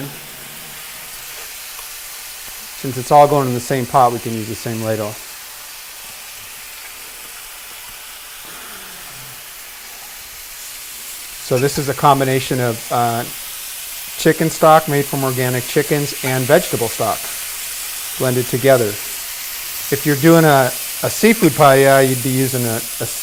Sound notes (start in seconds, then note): 6.8 sizzling